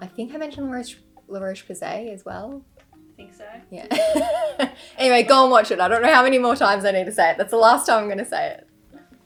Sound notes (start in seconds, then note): 3.9 laughs